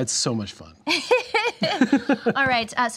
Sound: laughing

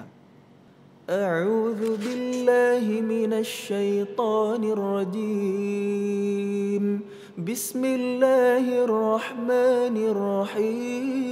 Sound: recites quran

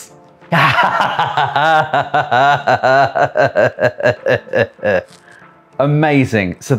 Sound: maniacal laughter

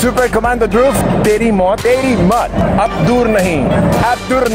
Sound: non-english speech

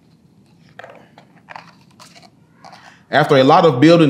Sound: pages rustling

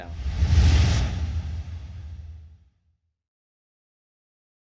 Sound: swooshing

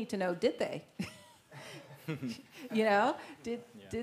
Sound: laugh

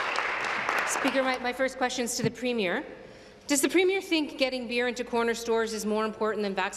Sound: applause

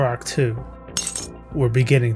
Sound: glass cracking

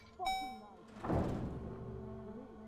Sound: indicator beeping; ominous music playing

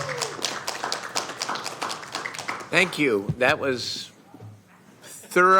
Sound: applause

